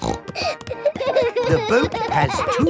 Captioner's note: snorting; kids giggling